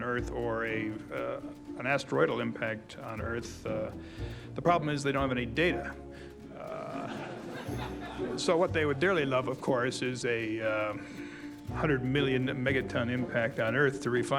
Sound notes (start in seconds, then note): 6.5 audience laughing